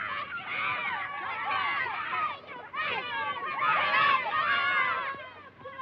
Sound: children screaming

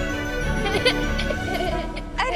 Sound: giggles

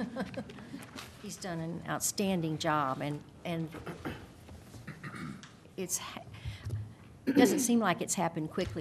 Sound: laughter

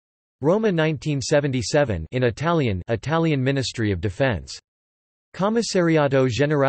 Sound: in Italian

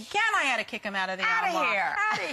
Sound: laughter

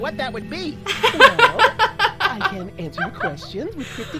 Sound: laughs

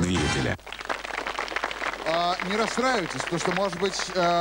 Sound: applause

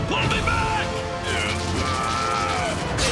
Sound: grunting

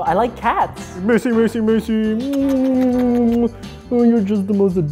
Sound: smooches

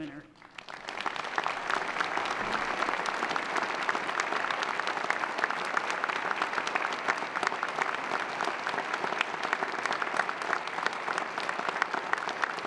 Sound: applause

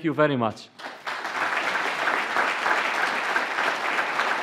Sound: applause

